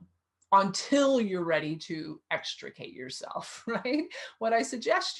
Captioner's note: chuckles